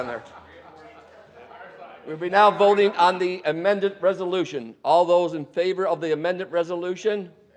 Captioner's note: laughing